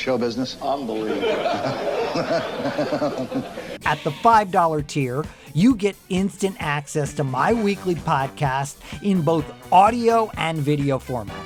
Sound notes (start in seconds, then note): 1.0 laughter